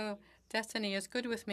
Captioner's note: speaking French